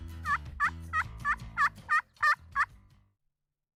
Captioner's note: bird calls